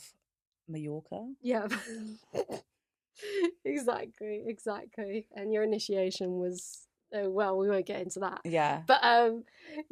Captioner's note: laughs